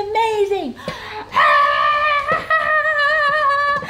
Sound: screaming

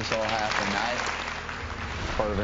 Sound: audience applauds

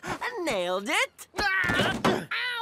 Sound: fighting noises

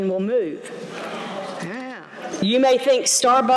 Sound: audience groans

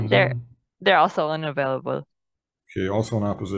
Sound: woman's Voice

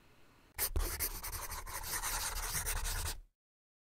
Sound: pencil scribbles

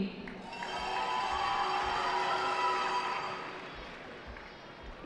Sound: cheering

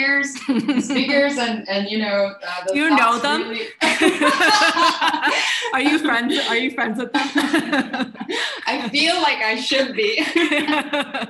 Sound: laughing

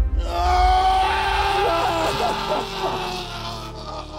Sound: screaming

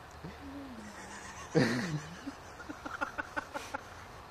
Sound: laughter

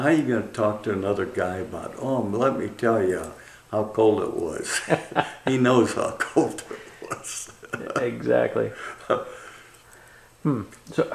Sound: laughter

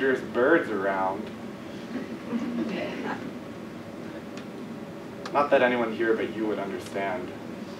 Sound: laugh

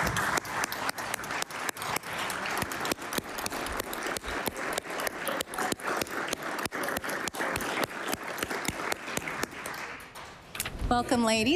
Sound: applause

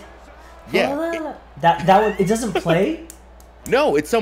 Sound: laugh

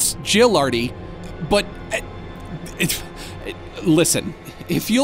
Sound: stammering

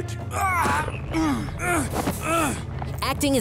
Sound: grunting

